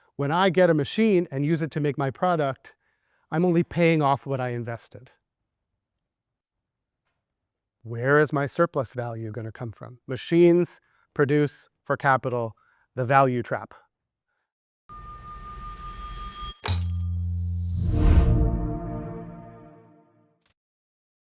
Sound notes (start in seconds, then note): 14.9 machine whirring; 18.0 ethereal music